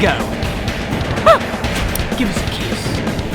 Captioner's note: gasping